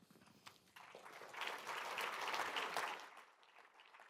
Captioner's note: applause